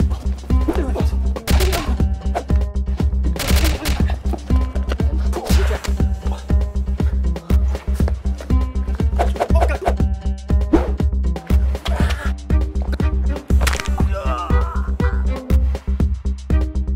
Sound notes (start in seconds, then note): 13.5 crunch; 13.9 groan